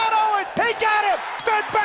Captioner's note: bell ringing